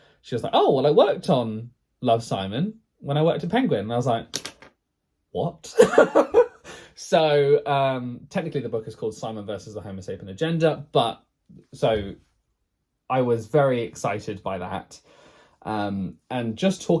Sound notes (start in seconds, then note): 5.8 laughs